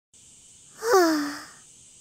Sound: sigh

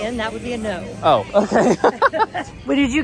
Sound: laughs

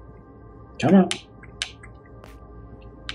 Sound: taps joystick

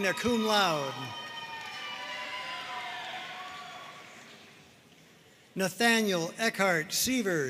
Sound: audience cheering and applauding

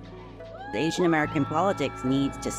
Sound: crowd cheering

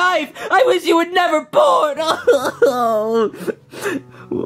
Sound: crying

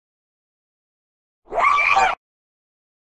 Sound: sound of a demon bird

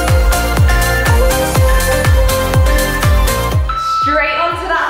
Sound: alarm beeping

